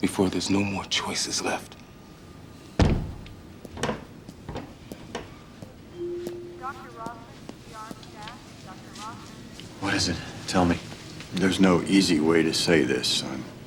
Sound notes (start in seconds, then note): 2.8 door shuts; 3.2 footsteps approaching; 5.8 on hospital loudspeaker